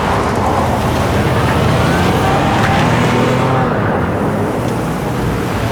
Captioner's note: engine revving